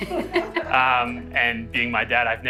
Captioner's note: laughing